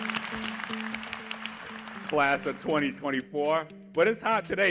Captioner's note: applause